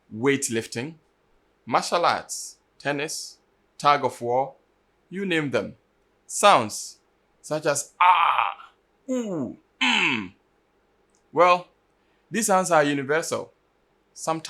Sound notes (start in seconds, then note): 7.9 aah; 8.0 unh